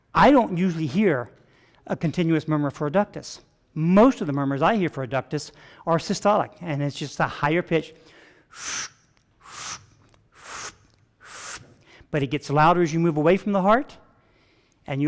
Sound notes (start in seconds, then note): 8.1 vocalizing short whooshing